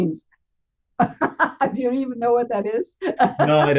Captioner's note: laughs